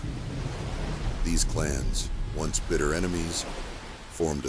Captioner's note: waves crashing